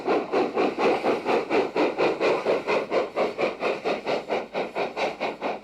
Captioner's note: train passes